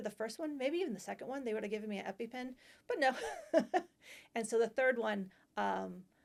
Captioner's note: laughter